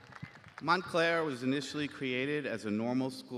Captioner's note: applause